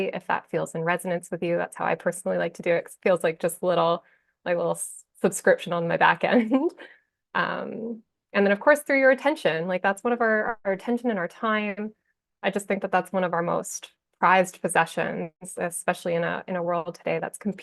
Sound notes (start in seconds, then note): 6.3 chuckles